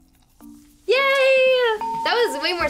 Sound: bell rings

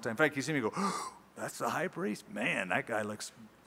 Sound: gasp

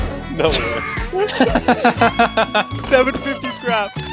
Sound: laughing

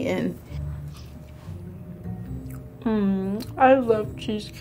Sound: eating

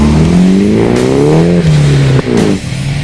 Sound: Nissan accelerates and drives off

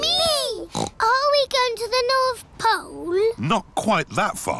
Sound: snorts

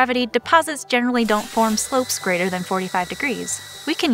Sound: blow dryer turns on

